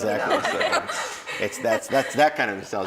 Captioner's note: laughing